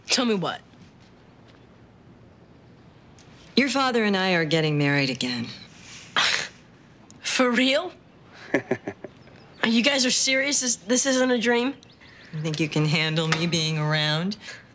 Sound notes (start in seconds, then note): 8.3 chuckles